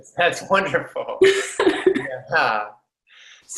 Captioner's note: laughing